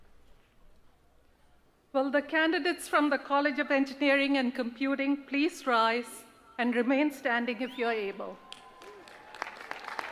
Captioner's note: applause